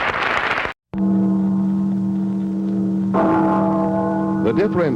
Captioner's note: applause; bell ringing